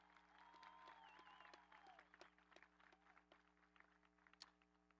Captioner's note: audience applauding